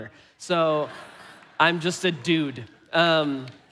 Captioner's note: congregation laughing